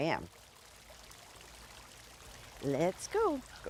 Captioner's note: water running